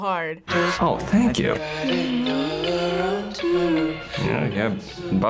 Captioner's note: hums along